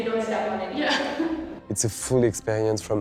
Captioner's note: laughs